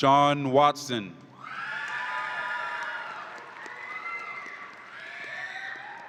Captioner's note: audience applauds and cheers